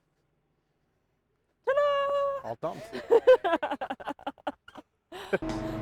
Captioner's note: laughing; motor whirring